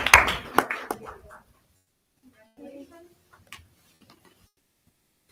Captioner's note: attendees chattering